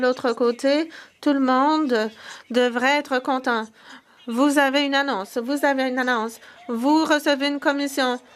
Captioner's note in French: voix de l'interprète